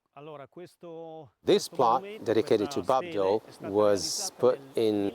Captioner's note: voiceover